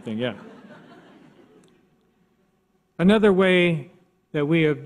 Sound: audience laughs

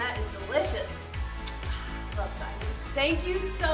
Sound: smacks lips

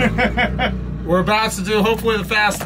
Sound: laughing

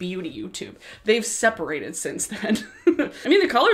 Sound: laughs

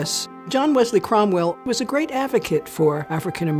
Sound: none

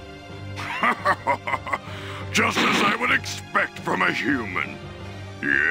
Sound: evil laugh

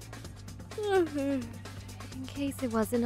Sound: yawns

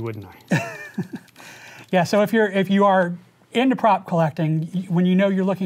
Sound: laughs

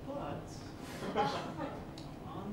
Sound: laughter

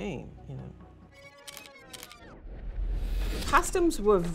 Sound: camera shutter clicking

